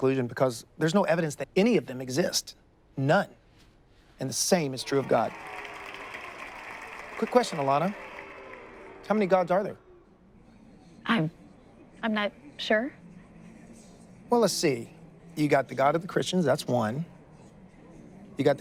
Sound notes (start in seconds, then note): 4.7 audience applauds; 12.9 audience murmurs